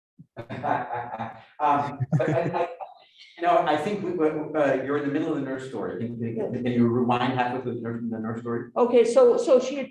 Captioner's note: laughs